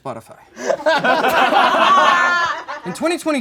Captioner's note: all laugh